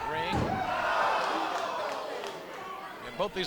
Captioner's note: crowd gasps